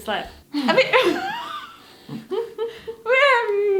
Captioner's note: laughing